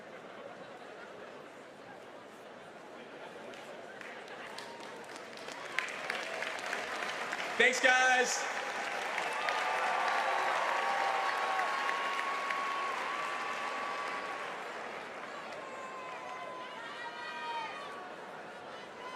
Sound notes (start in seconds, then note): 8.8 applause; 12.2 cheers and applause